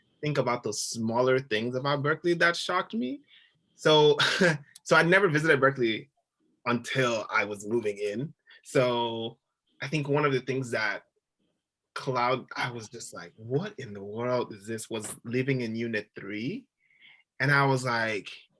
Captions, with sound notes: think about the smaller things about Berkeley that shocked me. So (giggling) I'd never visited Berkeley until I was moving in. So I think one of the things that cloud, I was just like, 'What in the world is this?' Was living in Unit 3, and I was like,